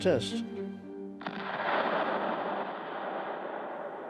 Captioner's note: explosion